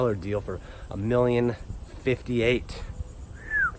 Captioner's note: whistles